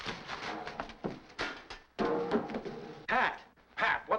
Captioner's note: metal wastebasket clattering